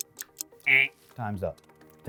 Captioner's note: buzzer sound